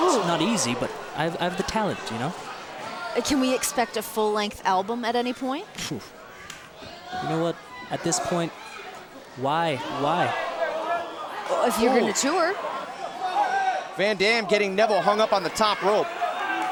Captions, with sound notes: It's not easy, but I have the talent, you know? Can we expect a full-length album at any point? (scoffs) You know what? At this point, why, why? If you're gonna tour... Van Dam getting Neville hung up on the top rope.